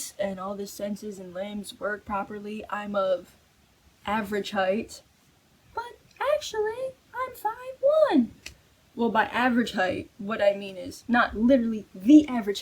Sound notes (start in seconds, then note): 5.9 high pitch voice